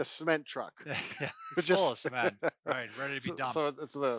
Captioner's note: laughs